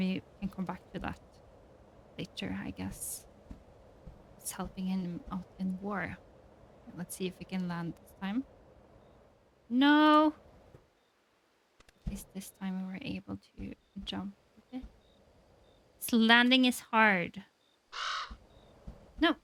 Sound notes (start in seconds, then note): none